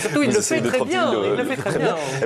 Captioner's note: blahblah, laughing about the other guy